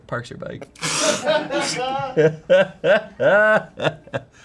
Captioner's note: everyone laughs